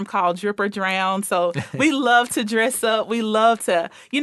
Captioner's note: laughing